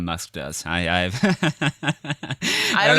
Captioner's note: laughs